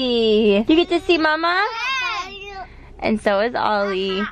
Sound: kids yelling

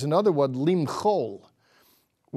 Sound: speaking in Hebrew

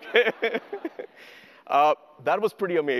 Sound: audience laughter; laughs

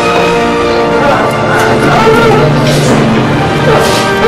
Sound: Emman whimpering

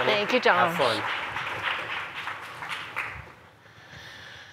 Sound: applause

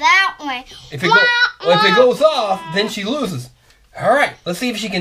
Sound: voiceover

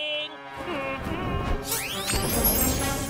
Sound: humming

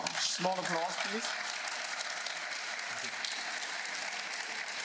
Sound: applause

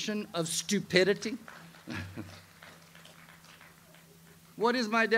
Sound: audience applauds

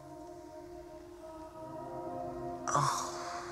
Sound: groans

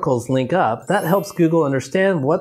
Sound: video clip twinkles

